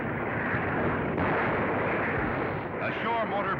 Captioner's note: firing